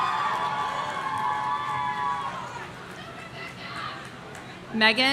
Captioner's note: audience cheering